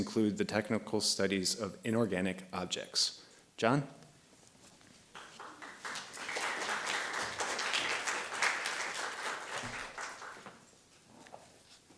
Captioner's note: applause